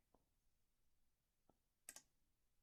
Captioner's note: click